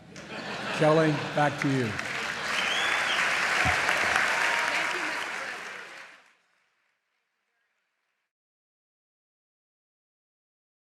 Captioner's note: laughter; applause